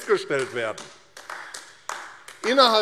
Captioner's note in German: Beifall AfD